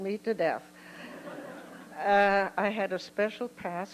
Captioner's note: laughter